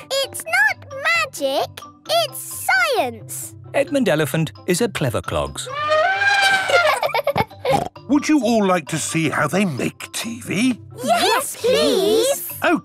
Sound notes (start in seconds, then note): 5.6 trumpeting; 6.1 laughing